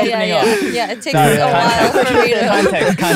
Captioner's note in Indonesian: tertawa